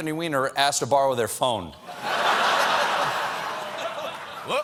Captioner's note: laughter